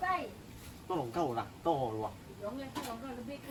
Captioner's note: Conversing in Hainanese~